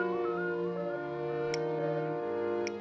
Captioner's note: beeping